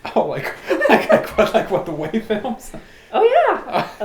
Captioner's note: laughing